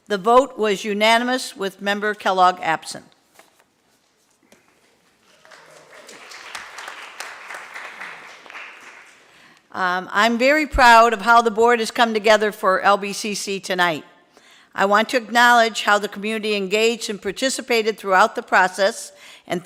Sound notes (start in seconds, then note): 5.2 applauding